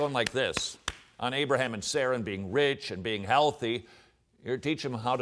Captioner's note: claps hands